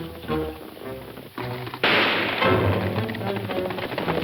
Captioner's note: soft suspenseful music; gun fires